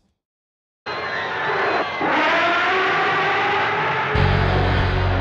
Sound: screaming & Monster Sounds

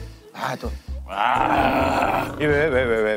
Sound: roaring

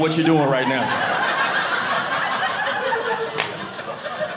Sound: audience laughing

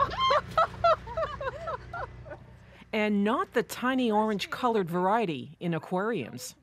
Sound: laughter

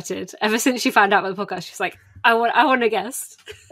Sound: laughs

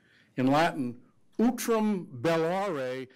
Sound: speaking foreign language

